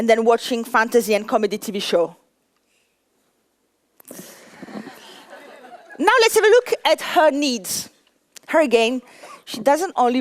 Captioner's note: laughter